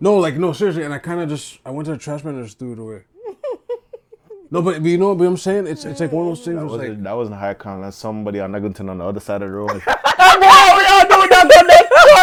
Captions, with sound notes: No, like, no, seriously. And I kind of just-- I went to the trash can and just threw it away. No, but you know what I'm saying? It's like one of those things was like-- That was in the high count. Somebody on the other side of the road. [LAUGHTER] Ayy boy what are you doing?